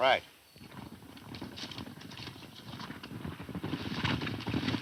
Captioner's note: running hoof beats